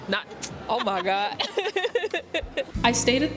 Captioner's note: laughter